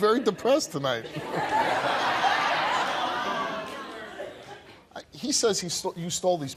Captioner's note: audience laughing